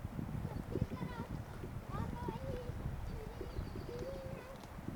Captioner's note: child talking